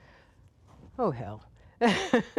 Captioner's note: laughter